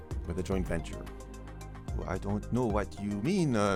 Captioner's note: with a strong French accent